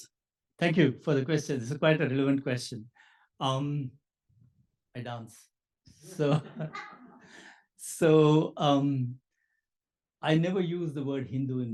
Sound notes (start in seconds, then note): 6.4 laugh